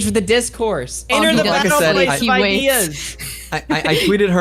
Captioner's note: laughs